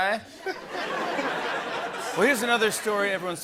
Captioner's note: robotically; laughter